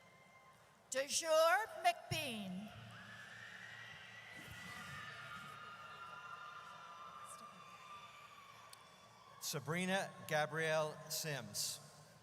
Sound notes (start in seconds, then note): 3.0 audience cheers